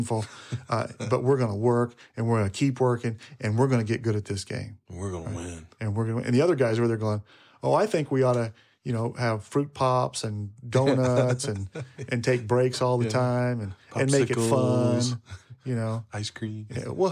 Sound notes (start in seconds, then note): 10.8 laughing